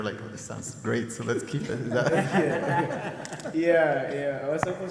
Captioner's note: people laugh